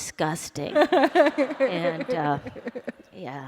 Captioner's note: laughter